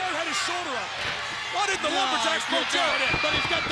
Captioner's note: overlapping chatter